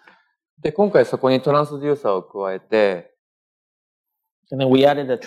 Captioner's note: speaking japanese